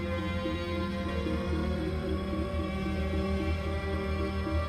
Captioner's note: device beeping rhythmically